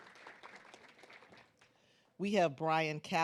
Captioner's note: claps